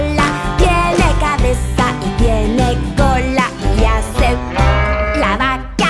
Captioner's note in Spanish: Sonido de vaca